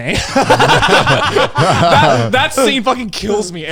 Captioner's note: everyone laughs